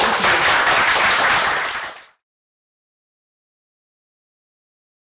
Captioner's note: applause